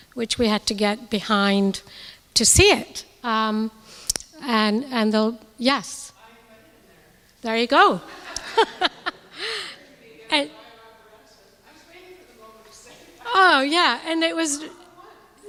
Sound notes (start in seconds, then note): 8.1 audience laughing